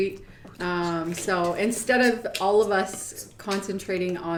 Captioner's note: beatboxing